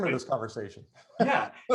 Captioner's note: laughs